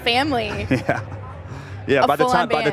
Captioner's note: laughs